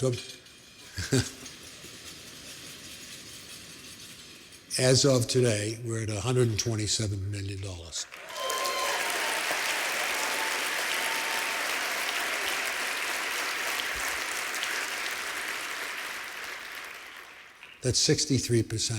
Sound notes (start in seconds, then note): 0.1 rattling rhythm; 7.9 applause